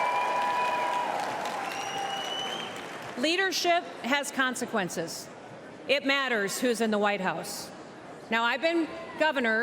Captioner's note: cheers and applause